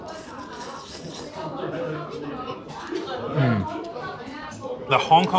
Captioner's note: indistinct chattering in the background